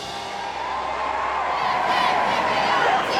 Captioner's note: cheering